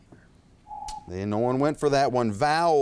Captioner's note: timer beeps